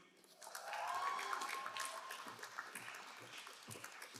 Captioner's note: crowd applauding